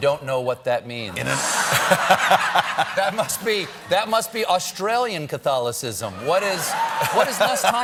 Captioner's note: laughter